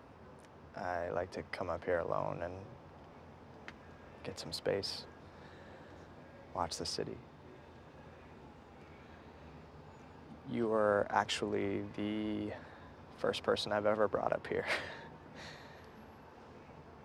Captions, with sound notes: I like to come up here alone and get some space. Watch the city. You are actually the first person I've ever brought up here. [chuckles]